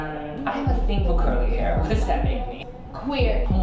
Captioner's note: laughing